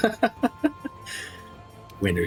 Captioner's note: laughs